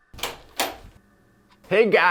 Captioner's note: door opens